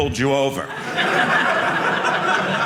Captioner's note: audience laughing